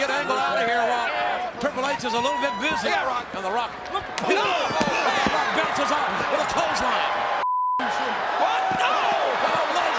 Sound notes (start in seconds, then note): 7.4 beeps